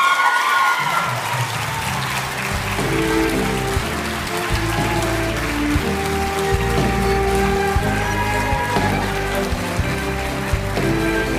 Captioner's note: cheering and applause